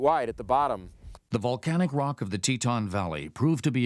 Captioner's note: voiceover